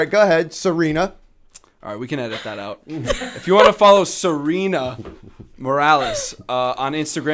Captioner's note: chuckle